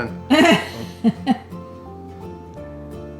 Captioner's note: laughing